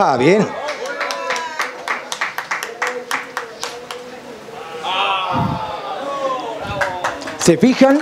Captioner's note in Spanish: Aplausos